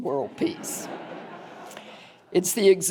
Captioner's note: audience laughing